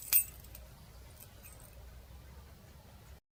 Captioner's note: keys ringing